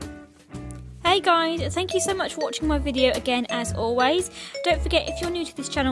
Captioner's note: voiceover